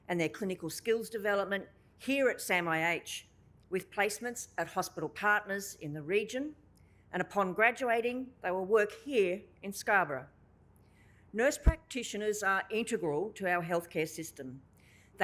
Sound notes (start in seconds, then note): none